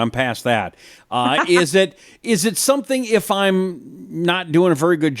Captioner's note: laughs